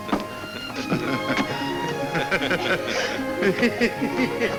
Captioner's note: men chuckle